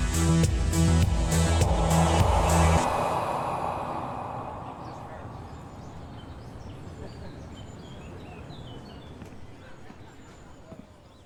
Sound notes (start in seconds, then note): 4.5 birds chirping; 4.5 people chattering